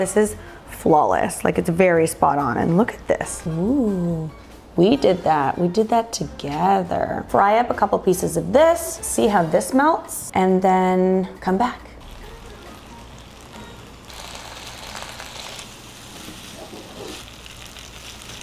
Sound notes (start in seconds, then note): 12.0 food sizzling; 12.0 upbeat music